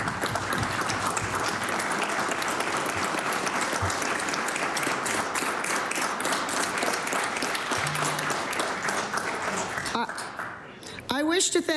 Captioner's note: applause